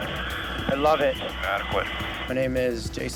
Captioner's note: Coast Guard Member Over Radio; person Over Radio